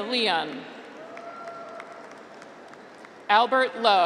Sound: graduates cheer

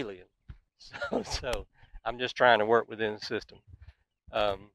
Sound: chuckles

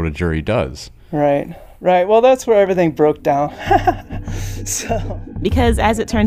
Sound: laughs

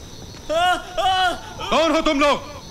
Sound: screams

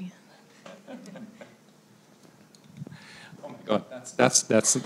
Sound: laughs

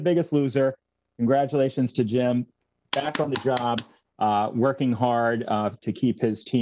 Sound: applause

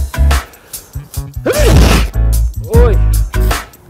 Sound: sneeze

